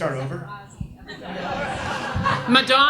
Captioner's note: audience laughs